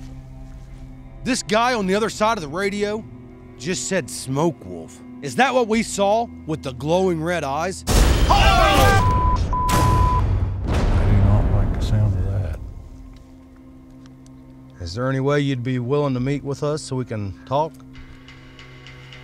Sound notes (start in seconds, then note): 8.2 screaming